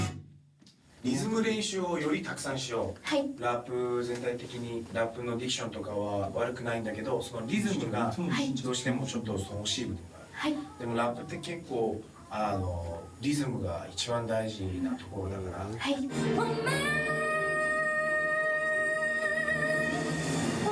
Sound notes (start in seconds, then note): 0.2 speaking in foreign language; 5.1 speaking in foreign language; 15.8 upbeat music